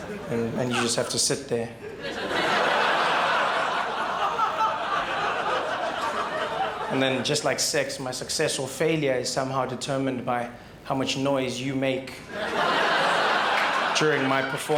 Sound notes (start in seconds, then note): 3.3 crowd laughs; 14.6 crowd laughs and cheers